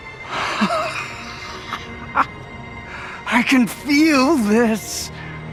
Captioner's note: laughs